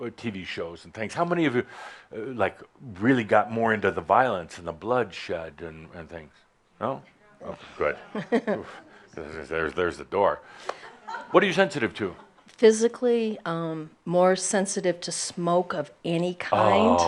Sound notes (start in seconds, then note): 10.5 a few chuckles